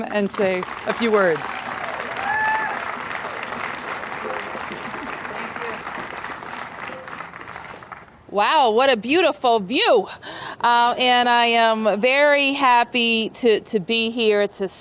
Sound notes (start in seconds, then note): 6.0 applause